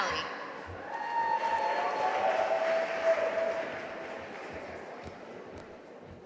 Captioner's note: audience cheering and applauding